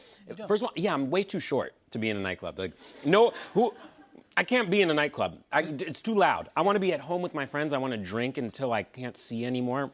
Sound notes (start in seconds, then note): 3.0 laughter